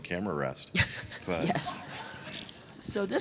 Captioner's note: laughs